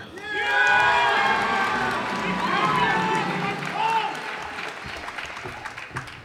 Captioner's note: cheers and applause